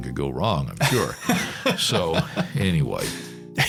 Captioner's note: laughs